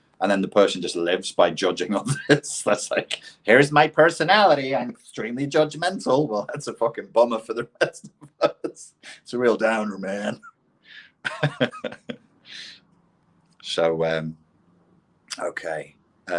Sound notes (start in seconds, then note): 10.9 laughs